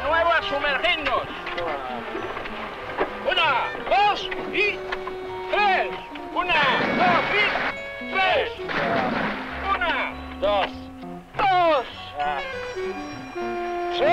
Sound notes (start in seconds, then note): 5.9 water splashing